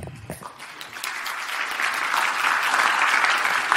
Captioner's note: crowd applauds